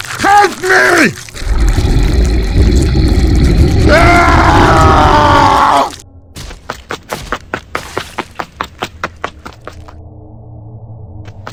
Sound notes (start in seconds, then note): 1.3 creature growls